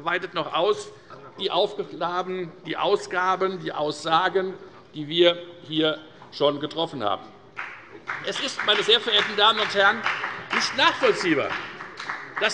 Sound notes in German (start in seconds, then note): 7.5 Beifall bei der FDP